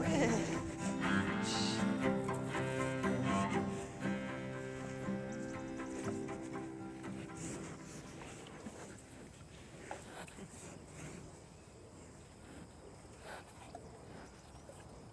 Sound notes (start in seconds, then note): 5.7 birds chirping; 5.7 cows sniffing